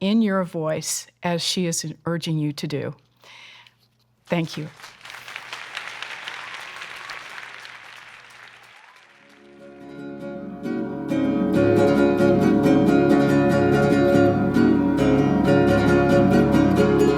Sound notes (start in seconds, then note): 4.2 applause; 9.3 string music